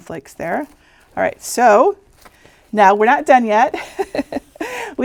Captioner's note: laughing